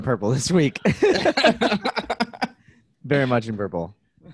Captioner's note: laughs